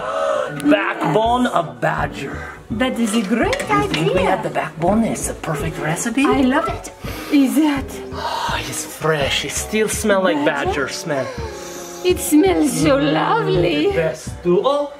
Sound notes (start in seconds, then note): 7.0 inhaling deeply